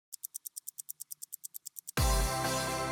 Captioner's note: ticking